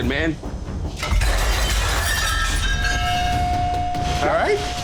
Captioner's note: dishes crash